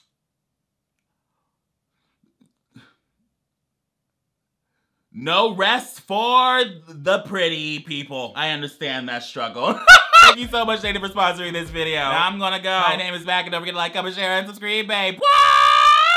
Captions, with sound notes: No rest for the pretty people. I understand that struggle. (cackles) Thank you so much, Native, for sponsoring this video. Now I'm gonna go. My name is Mac and don't forget to like, comment, share and subscreeb, babe, whah!